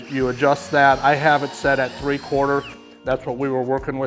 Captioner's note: drill whirling